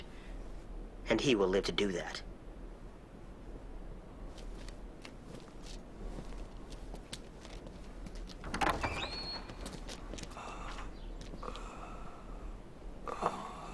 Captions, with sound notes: And he will live to do that. (door opening) - (breathing heavily)